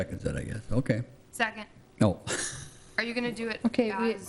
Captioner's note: laughs